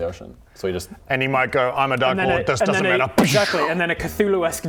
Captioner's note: bwoosh